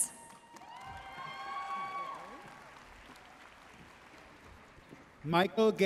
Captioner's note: audience cheering and applauding